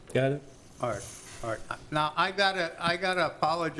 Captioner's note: pat